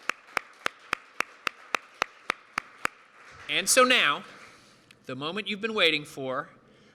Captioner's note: applause